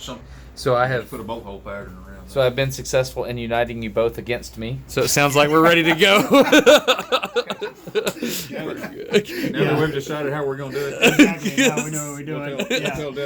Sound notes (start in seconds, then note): 5.6 laughs loudly